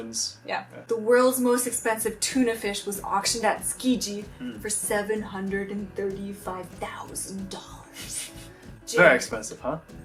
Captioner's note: laughs